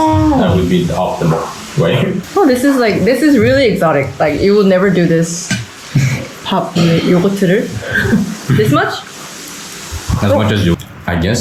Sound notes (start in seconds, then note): 9.6 drip